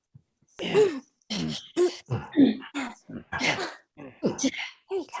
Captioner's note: all grunting